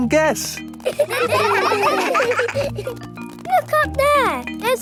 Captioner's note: children laughing